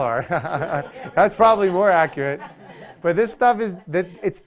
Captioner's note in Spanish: Risas